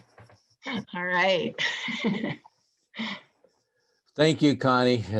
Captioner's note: chuckling